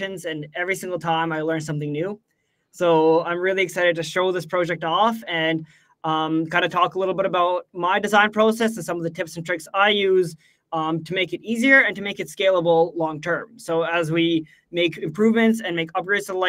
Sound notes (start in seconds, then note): none